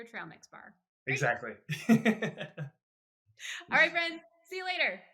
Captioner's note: laughs